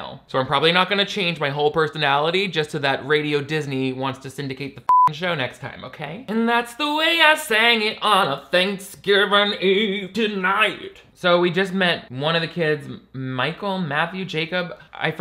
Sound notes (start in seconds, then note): 4.9 beep